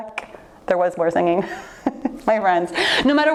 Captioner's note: laughs